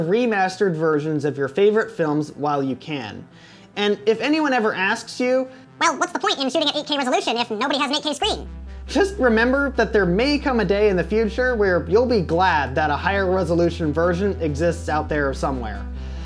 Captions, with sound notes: remastered versions of your favorite films while you can, and if anyone ever asks you: (mocking tone) "Well, what's the point in shooting at 8K resolution if nobody has an 8K screen?" Just remember that there may come a day in the future when you'll be glad that a higher resolution version exists out there somewhere.